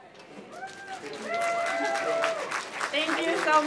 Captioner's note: applause